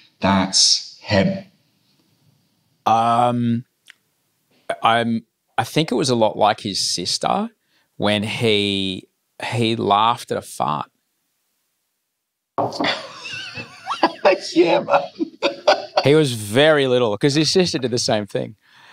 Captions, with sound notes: "that's him." - I think it was a lot like his sister when he laughed at a fart. (laughing) - Yeah, man. - He was very little, because his sister did the same thing.